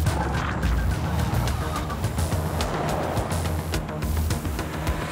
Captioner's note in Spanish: ruido del vehículo